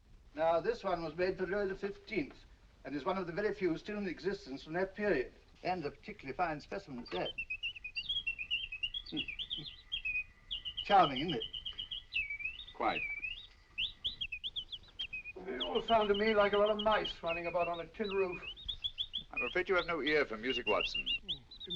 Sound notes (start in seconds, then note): 7.3 bird tweeting